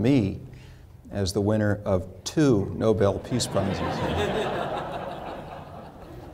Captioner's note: laughter